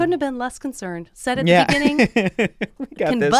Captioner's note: laughs